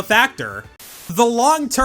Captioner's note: static